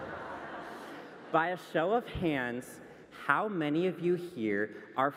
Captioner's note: laughter